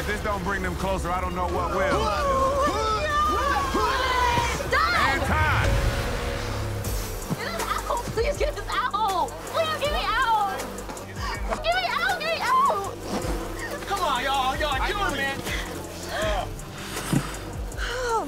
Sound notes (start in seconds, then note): 2.3 gags